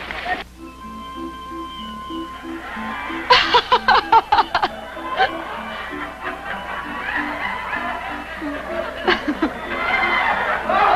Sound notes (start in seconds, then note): 0.2 circus music; 3.2 laughing; 8.8 laughing